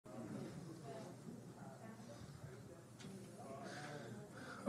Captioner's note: audience chatters